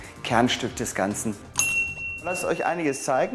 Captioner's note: dull ringing